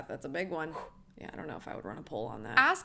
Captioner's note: exhales